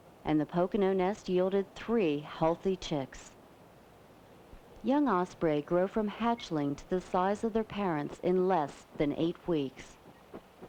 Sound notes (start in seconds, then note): none